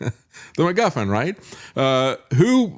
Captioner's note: laughs